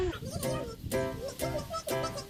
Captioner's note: chipmunk voice engage